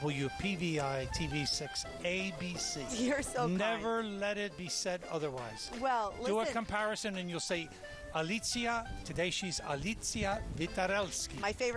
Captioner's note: speaking polish